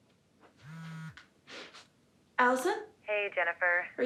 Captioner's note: phone buzzing